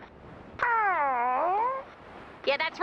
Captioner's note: groan